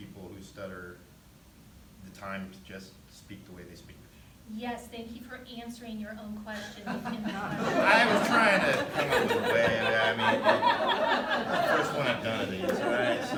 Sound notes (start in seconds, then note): 7.7 laughter; 10.7 laughter